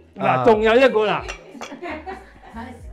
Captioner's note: laughs